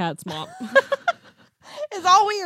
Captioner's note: laughs